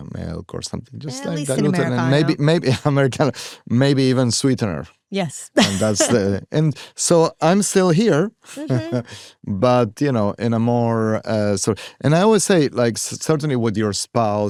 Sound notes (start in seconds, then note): 8.4 chuckles